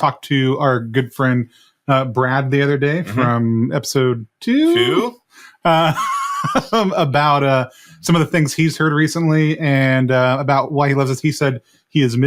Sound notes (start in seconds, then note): 6.6 laughs